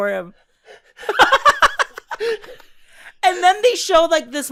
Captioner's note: laughs